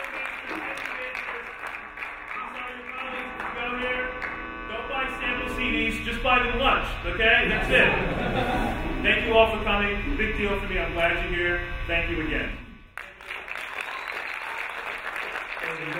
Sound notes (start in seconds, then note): 0.0 talking drown out by applauding; 7.3 laughing; 12.9 applauding